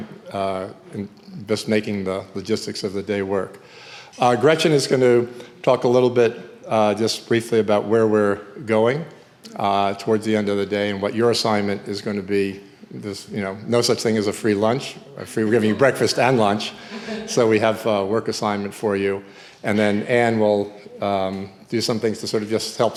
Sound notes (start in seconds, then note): 15.4 audience chuckling